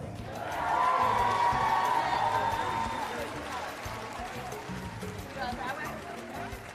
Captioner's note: cheering and Applause